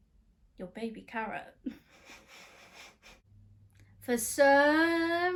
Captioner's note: laughs